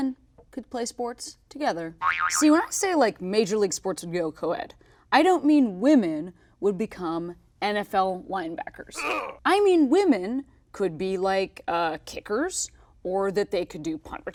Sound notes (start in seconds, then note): 2.0 cartoon boing effect; 9.0 grunt